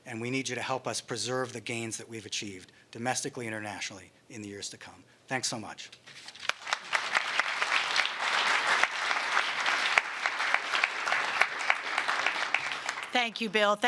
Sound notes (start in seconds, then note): 6.2 applause